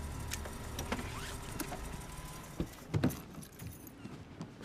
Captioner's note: engine shuts off